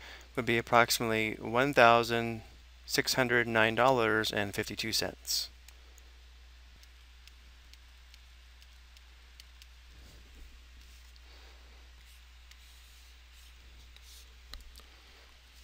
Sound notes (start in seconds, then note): 6.8 mouse clicking